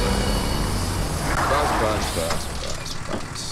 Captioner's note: Brakes squeal